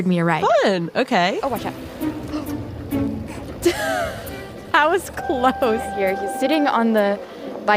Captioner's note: laughs